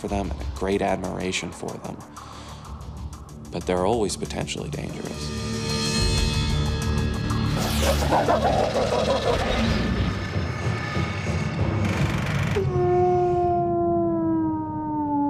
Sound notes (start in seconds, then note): 7.8 barking; 12.4 howling